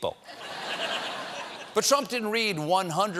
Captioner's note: laughter